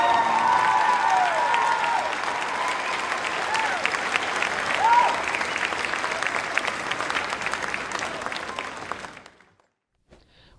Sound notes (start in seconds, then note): 0.6 crowd cheering loudly